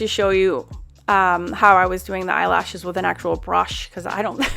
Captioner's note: laughs